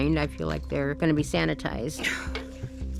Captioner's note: breathing heavily